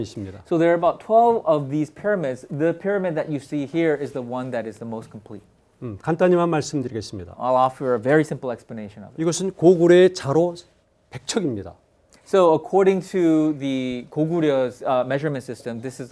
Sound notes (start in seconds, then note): 6.0 speaking in Korean; 9.4 speaking in Korean